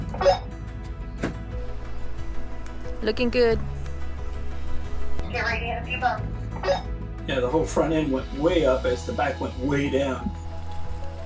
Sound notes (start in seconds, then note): 0.0 announces on radio; 1.6 radio chirps; 6.6 radio chirps